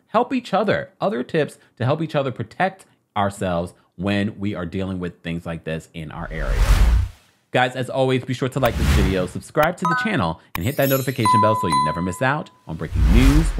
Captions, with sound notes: help each other, other tips to help each other protect ourselves when we are dealing with things like this in our area. Guys, as always be sure to like this video, subscribe to the channel (bell dinging) and hit that notification bell (chimes twinkling) so you never miss out on breaking news,